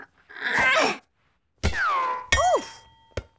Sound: grunts

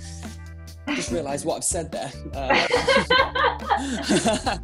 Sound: laughter

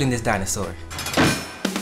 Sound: clank

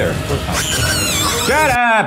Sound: Murder Monkey screeching

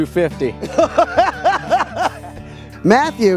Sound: laughs

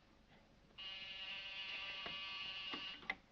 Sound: phone buzzes

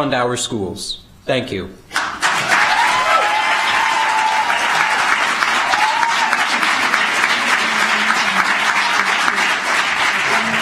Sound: applause

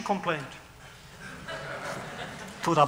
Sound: laughter

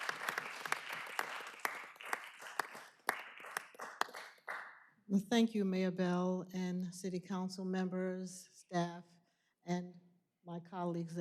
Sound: applause

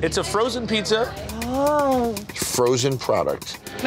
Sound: woman groans

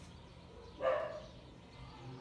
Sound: dog Bark

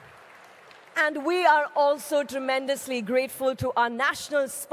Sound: cheering/Applause

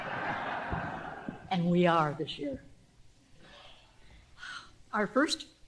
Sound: laughter

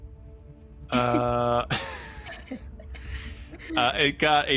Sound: players laughing

